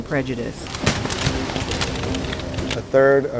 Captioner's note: rain; gun Fire; men Yelling